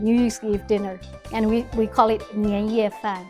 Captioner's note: speaking Mandarin